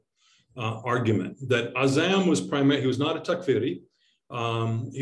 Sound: speaks foreign language

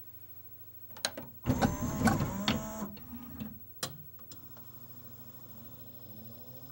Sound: same mechanical, spin up, and laser tracking sounds as before

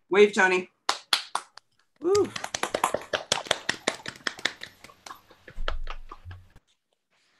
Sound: applause

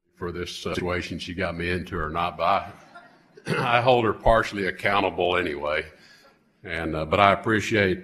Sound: laughter

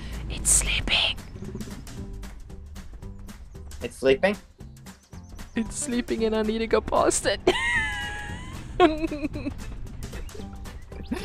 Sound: nervous giggle

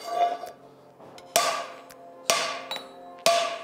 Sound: metal clangs

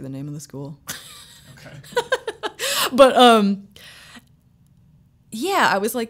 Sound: laughing

